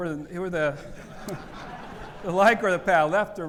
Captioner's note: audience laughing